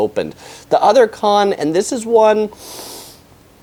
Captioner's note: inhales deeply